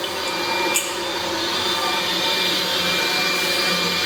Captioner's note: pipes hum